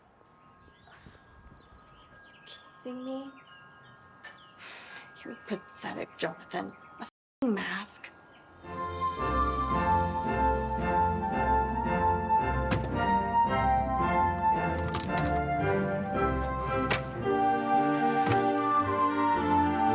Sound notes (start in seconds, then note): 1.8 faint music; 4.9 sighs; 8.5 cheerful music; 12.6 items clatter; 14.9 cheerful music